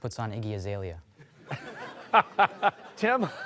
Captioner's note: laughing